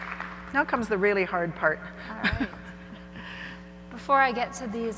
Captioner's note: laughs